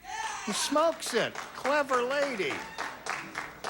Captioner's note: scattered applause